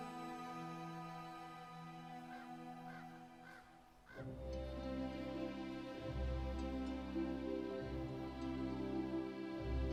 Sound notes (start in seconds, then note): 2.2 crow cawing; 5.0 soft music